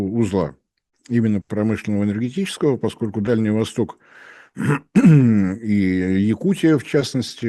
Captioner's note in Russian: откашливается